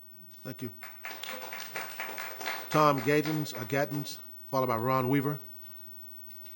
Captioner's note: applause